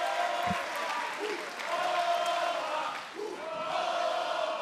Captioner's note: audience chanting Oba